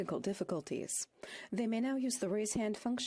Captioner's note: speaking French